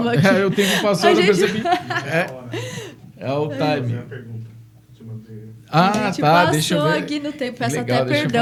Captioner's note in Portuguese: risadas